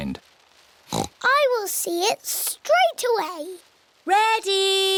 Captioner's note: oinks